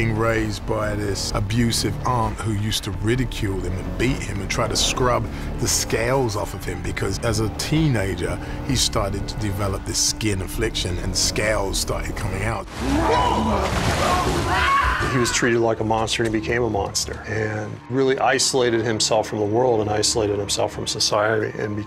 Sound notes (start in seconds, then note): 13.3 grоwls; 13.3 yеlls